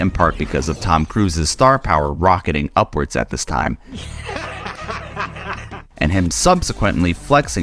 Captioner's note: laughs in Scientology